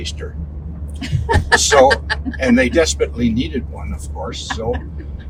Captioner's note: laughing